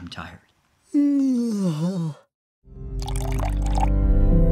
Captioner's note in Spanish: Bostezo